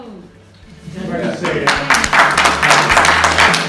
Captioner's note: applause